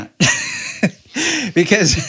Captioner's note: laughing